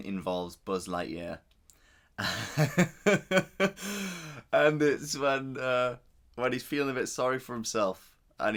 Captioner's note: laughs